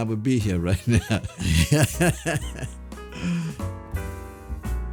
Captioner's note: laughs